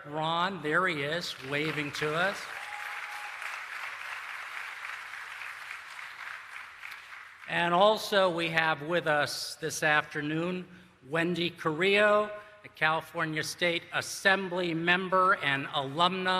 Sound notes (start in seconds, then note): 3.2 applause